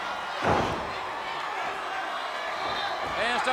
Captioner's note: ring floor thudding